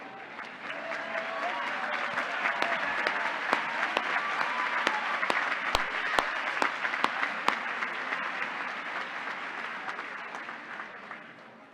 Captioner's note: applause